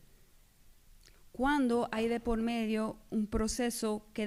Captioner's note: speaking spanish